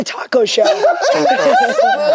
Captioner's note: group laughs